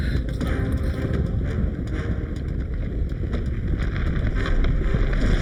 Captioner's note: Glenda panting; ground rumbling